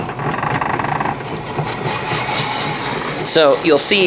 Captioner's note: machine grinds